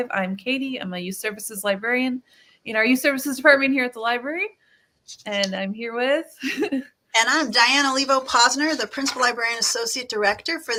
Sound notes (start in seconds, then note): 6.4 laughs